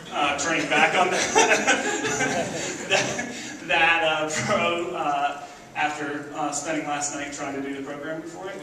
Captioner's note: laughs